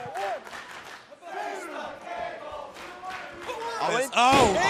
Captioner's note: fans chanting